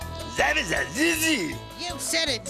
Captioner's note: exclaiming